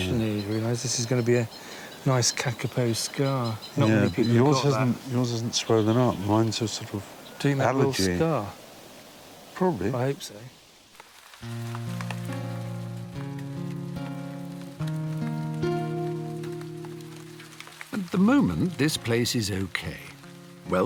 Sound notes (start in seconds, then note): 11.4 gentle music; 11.5 rain pattering